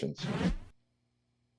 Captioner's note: transition sound